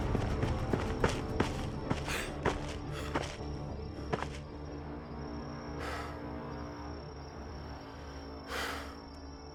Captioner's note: justin panting